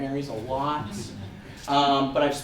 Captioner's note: audience members laugh